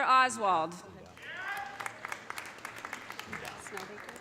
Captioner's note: audience applauding